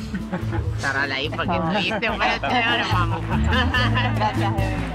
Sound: laughs

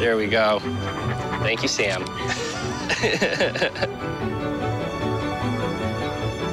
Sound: laughs

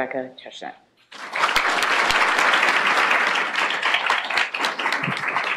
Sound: applause

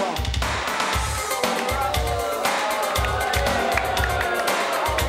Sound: audience booing

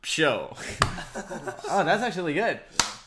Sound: laughing

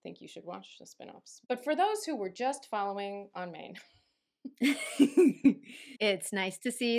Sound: laughter

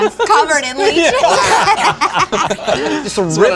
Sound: all laugh

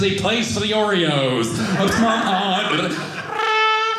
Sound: audience laughing

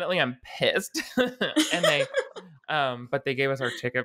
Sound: both laughing

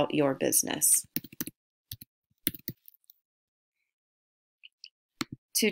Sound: typing

